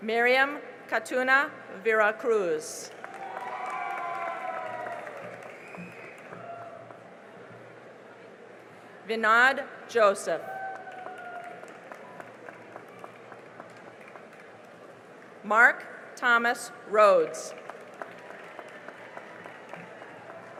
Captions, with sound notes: Miriam Caetano Vera-Cruz [CHEERING AND APPLAUSE] Vinod Joseph [CHEERING AND APPLAUSE] Mark Thomas Rhoads [CHEERING AND APPLAUSE]